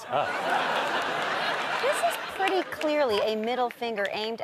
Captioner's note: audience laughter